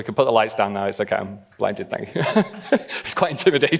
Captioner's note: laughing; laughs